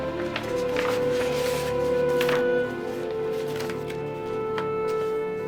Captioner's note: papers rustling